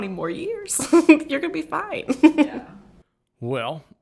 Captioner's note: chuckles